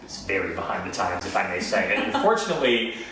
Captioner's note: laughs